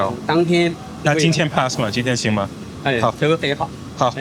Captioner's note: chef speaking in foreign language; speaking in foreign language; chef speaking in foreign language; speaking in foreign language